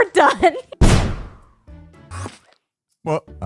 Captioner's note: wind Burst explosion